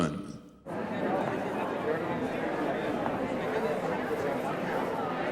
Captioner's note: background talking